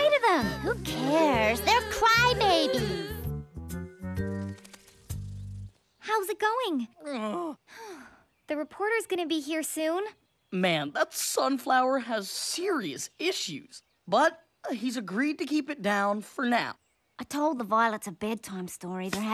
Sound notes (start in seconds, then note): 8.4 groaning